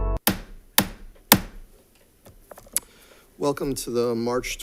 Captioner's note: gavel thuds